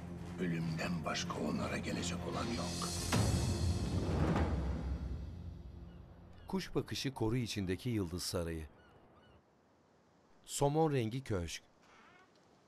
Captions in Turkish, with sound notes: ...ölümden başka onlara gelecek olan yok. (Martı sesi)